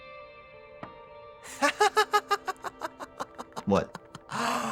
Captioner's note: laughing